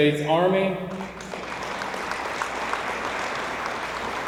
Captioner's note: audience applauds